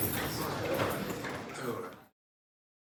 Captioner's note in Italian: Applauso